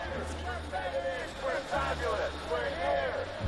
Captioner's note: men chanting